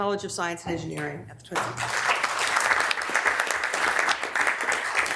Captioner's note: members applauding